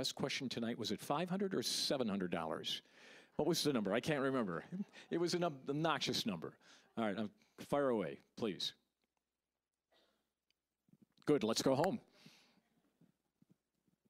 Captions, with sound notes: THE BEST QUESTION TONIGHT-- WAS IT $500 OR $700? WHAT WAS THE NUMBER-- I CAN'T REMEMBER. (audience laughing) IT WAS AN OBNOXIOUS NUMBER. ALL RIGHT, FIRE AWAY, PLEASE. (silence) GOOD, LET'S GO HOME!